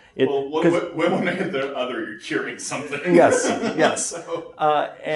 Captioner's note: laughs